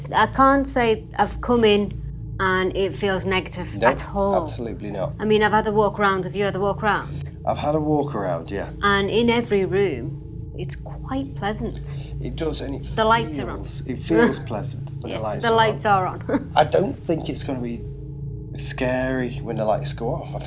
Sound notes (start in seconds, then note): 15.8 laughs